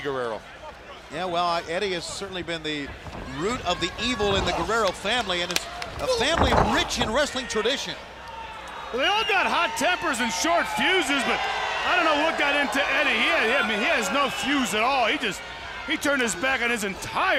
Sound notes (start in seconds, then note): 8.7 crowd cheering